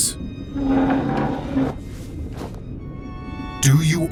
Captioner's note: chair scraping across floor